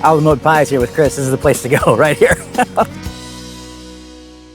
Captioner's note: chuckles